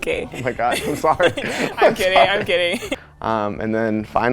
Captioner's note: laughs